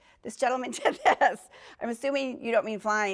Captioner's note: laughs